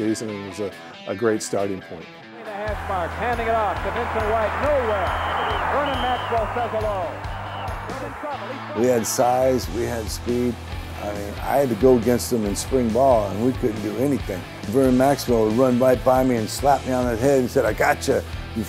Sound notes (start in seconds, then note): 4.9 whistles blow; 8.6 announcer's voice fades